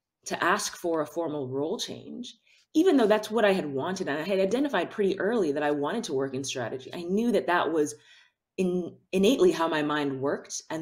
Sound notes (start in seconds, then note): none